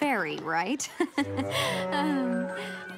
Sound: laughing nervously

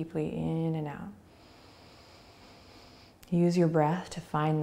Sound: inhaling

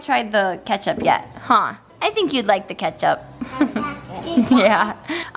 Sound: giggle

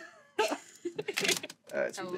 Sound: Val stammers then laughs; she laughs

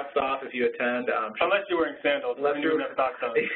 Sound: voiceover

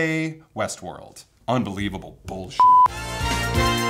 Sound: beep

